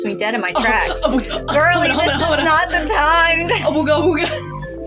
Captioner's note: sensual Music; stammer; sensual Music; snicker